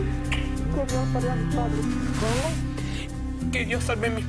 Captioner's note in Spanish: le murmura al oído; sollozos